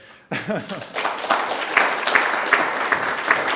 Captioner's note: speaker laughs; applause